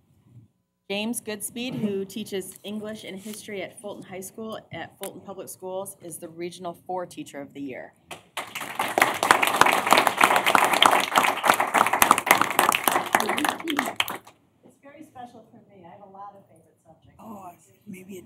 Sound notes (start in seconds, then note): 8.1 applause